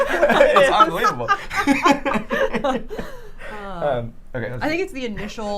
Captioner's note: laughs